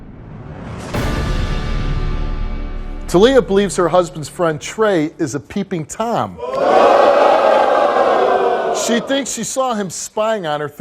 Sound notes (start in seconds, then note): 0.3 dramatic orchestral music; 6.4 audience hollers